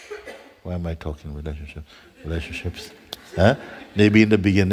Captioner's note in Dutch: gelach